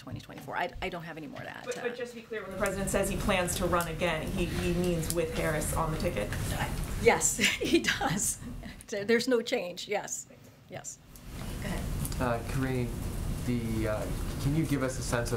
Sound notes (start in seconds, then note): 7.3 laughs